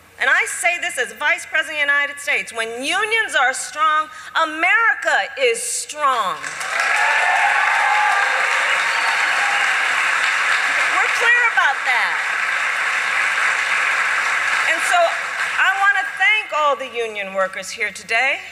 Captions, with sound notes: and I say this as Vice President of the United States -- when unions are strong, America is strong. (Applause.) We're clear about that. And so, I want to thank all the union workers here today